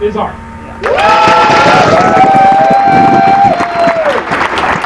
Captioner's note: applause